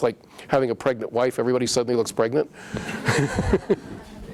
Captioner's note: laughs